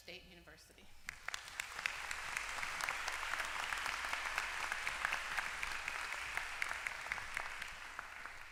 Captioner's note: applause